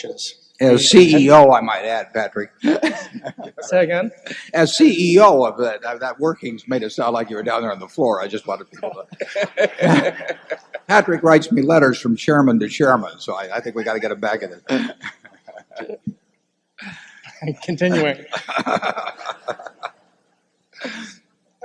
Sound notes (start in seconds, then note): 2.6 laughter; 8.8 laughter; 16.3 laughter